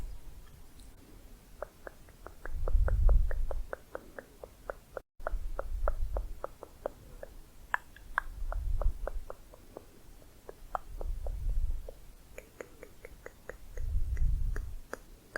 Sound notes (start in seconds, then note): 1.6 varied tongue clicking